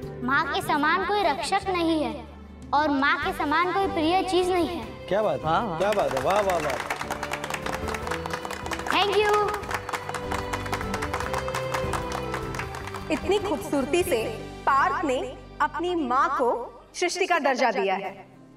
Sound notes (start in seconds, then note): 9.9 clapping